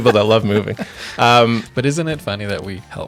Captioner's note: laughing